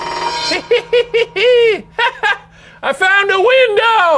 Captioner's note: cackles